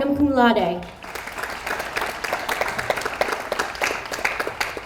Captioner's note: audience applauds